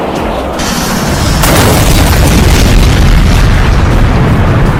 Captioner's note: jet crashes